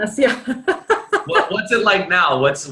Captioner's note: laughs